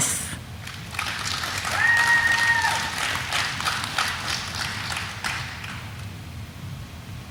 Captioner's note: audience applauding; audience member cheering